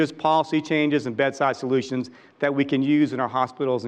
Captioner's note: none